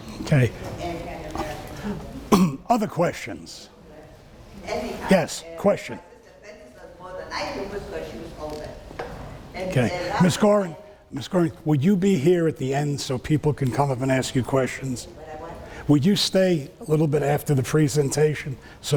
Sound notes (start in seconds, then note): 1.5 speaking off mic and muffled; 6.1 speaking off mic and muffled